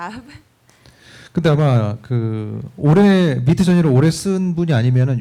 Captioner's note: speaking korean